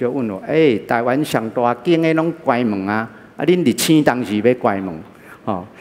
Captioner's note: sigh